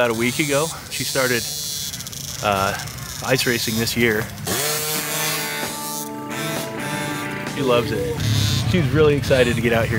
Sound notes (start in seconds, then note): 3.7 motorbike engine whirring; 3.7 upbeat rock music